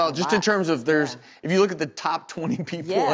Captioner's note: laughs